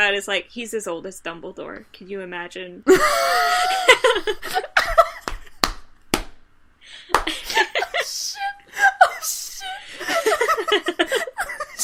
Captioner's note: laughter